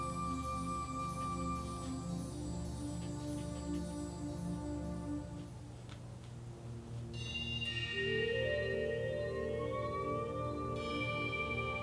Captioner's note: soft brushing